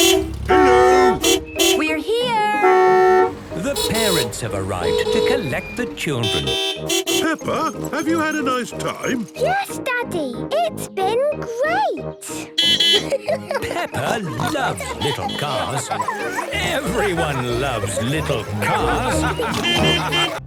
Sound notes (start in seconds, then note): 2.6 beeping; 12.6 beeping and laughing; 18.5 laughter; 19.5 beeping